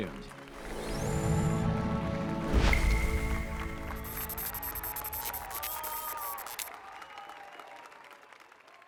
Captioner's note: applause and cheers